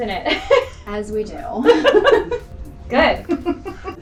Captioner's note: laughing